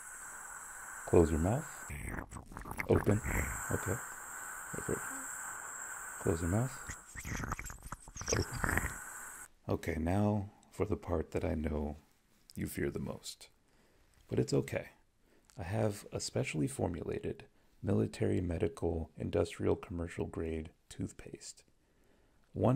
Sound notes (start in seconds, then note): 12.5 brushing your teeth